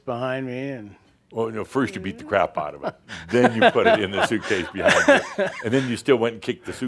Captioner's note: chuckles